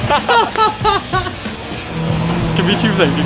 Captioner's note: laughing